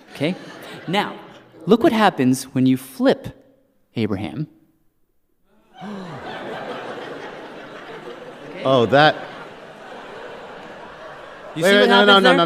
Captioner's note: gasps